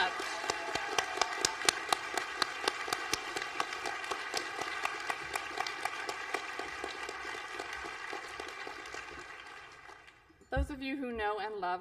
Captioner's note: applause